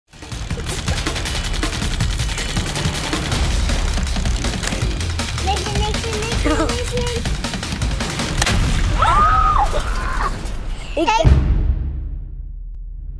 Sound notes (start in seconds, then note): 0.2 upbeat music; 9.0 squealing